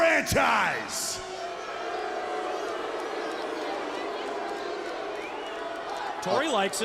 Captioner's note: crowd cheering